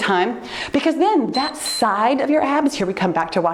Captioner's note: timer beeps